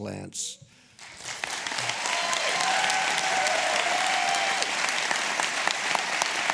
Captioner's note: applause